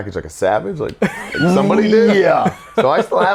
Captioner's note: laughs